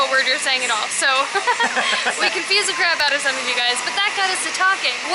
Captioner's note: laughter